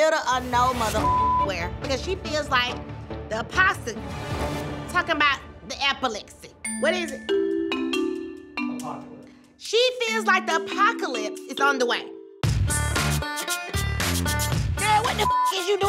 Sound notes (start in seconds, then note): 0.9 beep; 6.6 bell dinging; 13.1 upbeat music; 15.1 beep